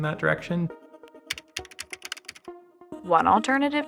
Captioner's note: letters typing